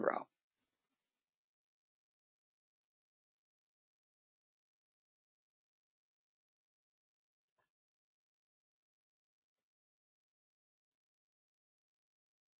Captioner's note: 14 seconds pause